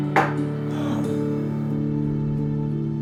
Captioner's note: sighs